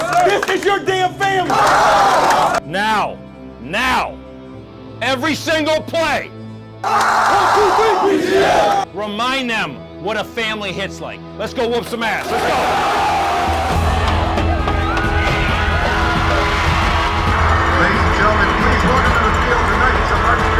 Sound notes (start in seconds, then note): 6.8 screaming; 12.9 shouting; 14.3 inspiring music